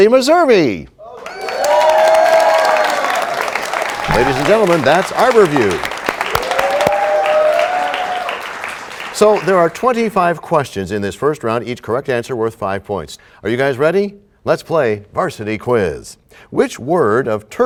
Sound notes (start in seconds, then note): 2.1 applause; 7.0 applause